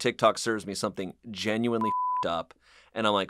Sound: beep

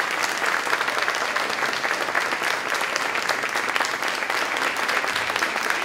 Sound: applause

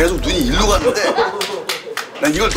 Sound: clap, clap, clap; seal clap

